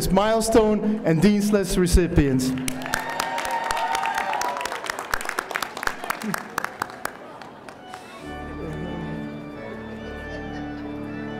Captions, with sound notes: Milestone and Dean's List recipients! (audience applauding) (light music)